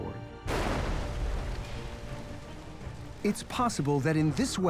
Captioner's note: loud explosion